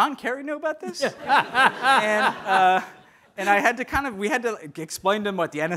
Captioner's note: audience laughing